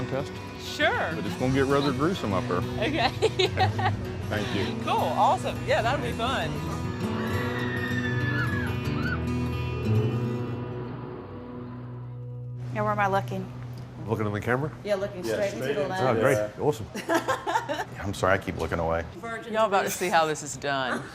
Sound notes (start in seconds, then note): 2.9 laughs; 6.8 carnival riders screaming; 17.0 laughing